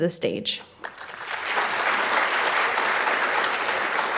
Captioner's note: crowd applauding